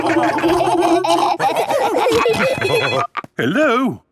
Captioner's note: laughing; phone ringing